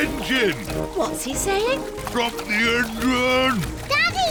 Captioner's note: splutters